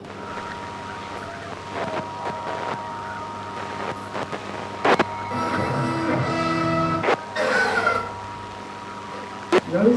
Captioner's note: static noise